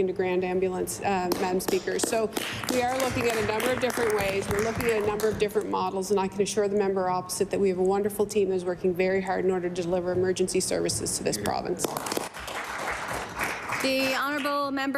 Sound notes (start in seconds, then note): 5.3 applause